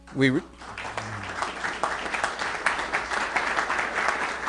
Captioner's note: applause